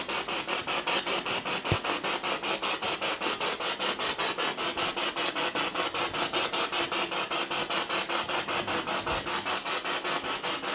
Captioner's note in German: Noise of the spiritbox in the background